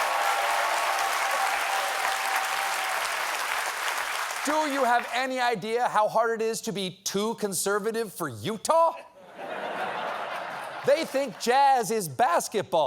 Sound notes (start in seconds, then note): 4.5 applause